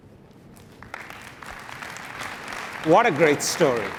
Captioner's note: applause